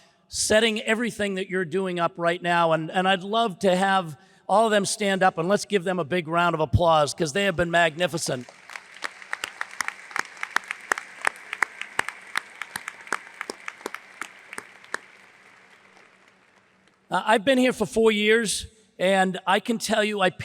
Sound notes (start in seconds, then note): 8.2 hands clapping; 8.2 audience applauds